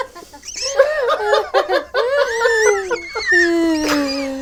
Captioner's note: laughs